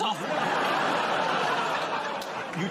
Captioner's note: laughter